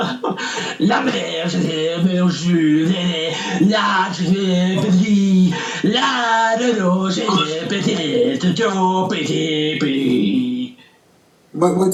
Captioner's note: laughing; deep and rough gibberish in nursery rhyme rhythm